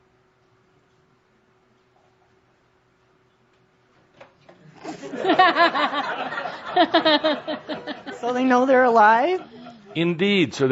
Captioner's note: laughter